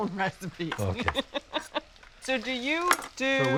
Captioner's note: laughs